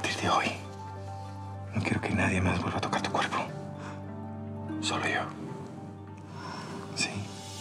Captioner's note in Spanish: none